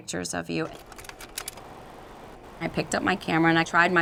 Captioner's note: projector whirring